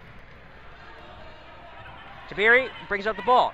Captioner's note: crowd talking